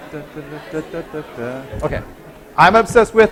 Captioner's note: humming